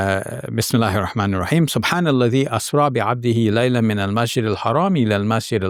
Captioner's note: speaking Arabic